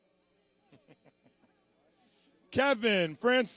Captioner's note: laughing